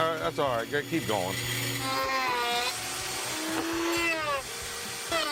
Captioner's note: router buzzing